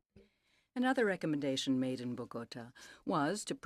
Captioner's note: speaking French